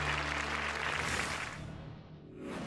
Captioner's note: applause